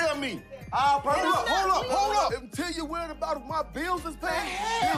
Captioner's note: arguing continues